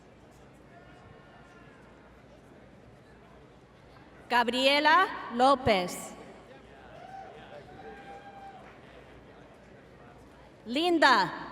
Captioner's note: applause